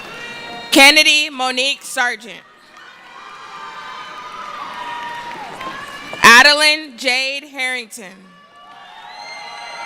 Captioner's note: cheering; cheering